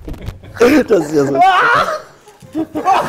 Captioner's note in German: Schrei